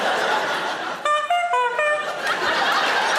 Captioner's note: honking sound; audience laughing